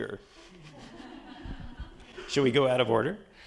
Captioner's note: attendees laughing